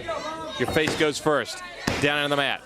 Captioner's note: crowd chatter